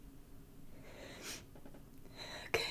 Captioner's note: sniffling